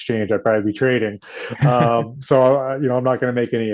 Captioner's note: laughs